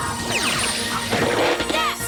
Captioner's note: zap